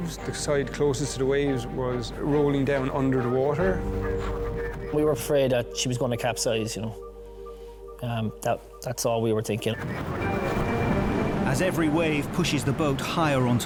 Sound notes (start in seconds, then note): 3.9 radio vocalizing; 9.8 water whooshing; 9.9 intense music